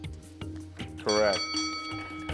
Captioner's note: bell chimes